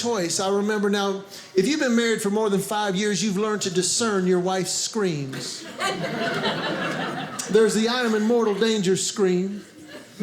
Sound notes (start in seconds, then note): 5.4 audience laughing